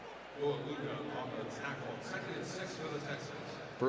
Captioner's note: pa announcement